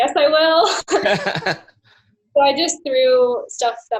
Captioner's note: laughs